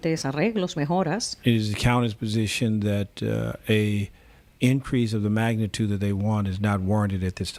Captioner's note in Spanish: Hablando ingl\s